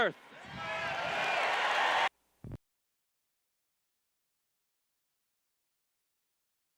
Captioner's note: cheers